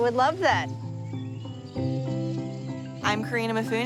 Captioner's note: birds chirping